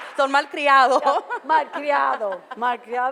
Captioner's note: foreign language